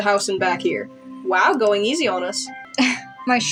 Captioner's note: scoff